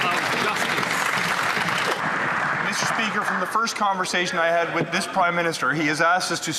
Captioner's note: some Applause